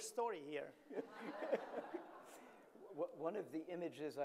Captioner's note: audience laughing